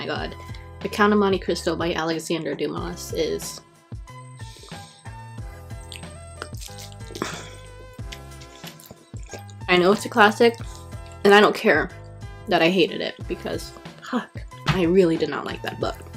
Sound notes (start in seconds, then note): 7.3 scrumptious biting into burrito